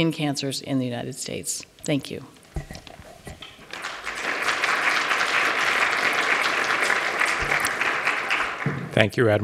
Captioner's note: applause